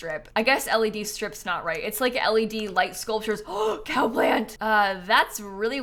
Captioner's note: gasps